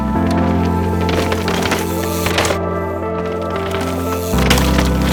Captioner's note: bike hitting the ground